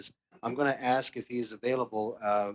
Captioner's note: speaking French